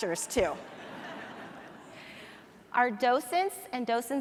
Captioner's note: audience laughs